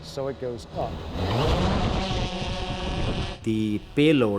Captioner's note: drone engine roaring